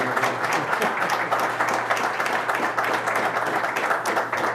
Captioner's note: applause continues